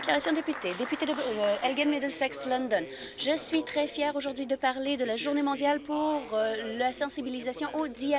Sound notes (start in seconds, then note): 2.4 applause